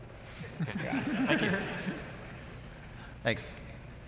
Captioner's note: laughter